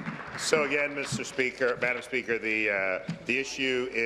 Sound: applause

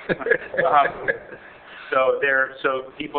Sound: laughing

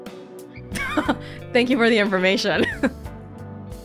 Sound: chuckles

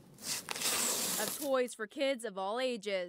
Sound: nat of boxes opening

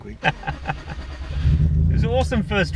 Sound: laughs; engine starts

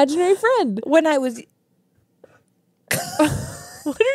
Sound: laughs

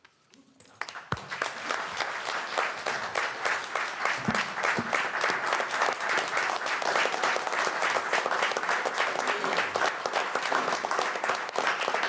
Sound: applause

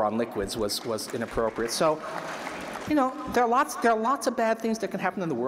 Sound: applause

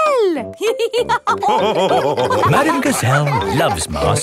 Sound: all laughing

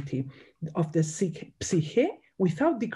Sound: speaks in Greek

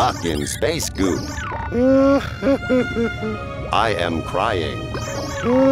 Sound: crying

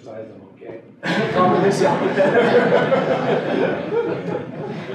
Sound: laughter

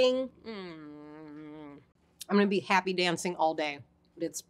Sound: hums

